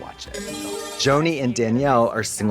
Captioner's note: bright chime